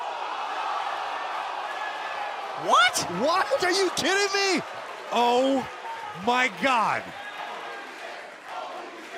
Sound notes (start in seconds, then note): 1.1 cheers; 8.9 fans chanting